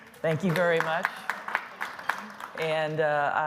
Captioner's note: applause